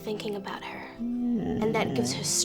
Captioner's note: Bob groaning